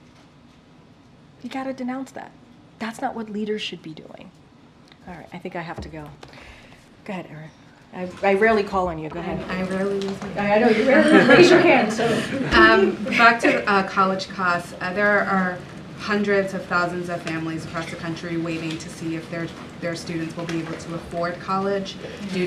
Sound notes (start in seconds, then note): 10.6 laughter